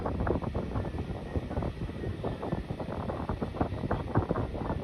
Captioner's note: wind whipping